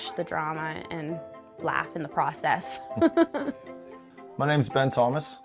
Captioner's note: laughs